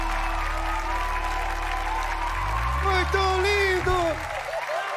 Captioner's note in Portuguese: aplausos